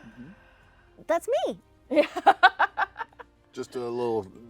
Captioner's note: laughs